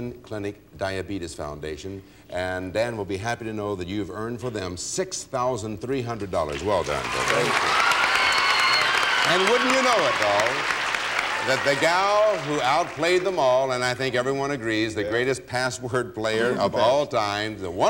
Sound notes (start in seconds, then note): 8.4 applause